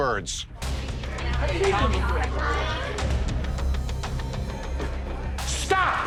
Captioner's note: crowd chatter